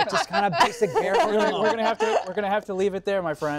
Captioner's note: laughter